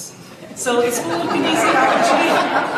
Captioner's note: audience laughs